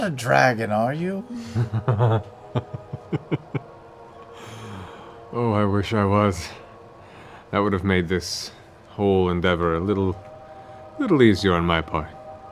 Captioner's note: laughs